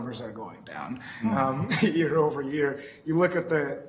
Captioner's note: chuckles